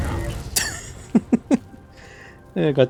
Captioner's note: giggling